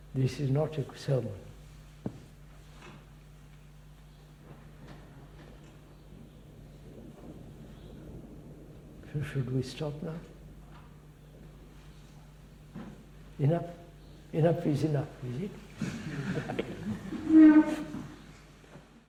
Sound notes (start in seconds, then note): 15.8 laughter